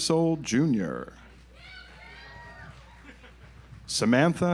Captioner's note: audience applauds